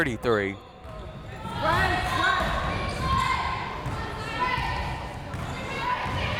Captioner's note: crowd members shouting